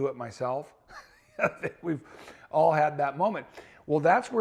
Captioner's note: chuckles